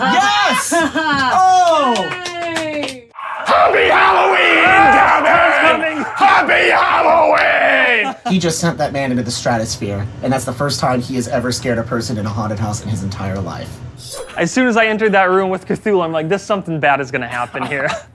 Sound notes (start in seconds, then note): 1.2 applause